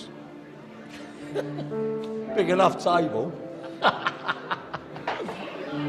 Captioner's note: laughing